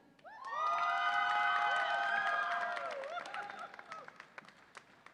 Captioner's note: audience applauds and cheers